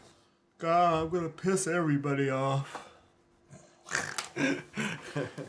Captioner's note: laughing